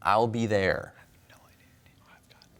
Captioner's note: whispers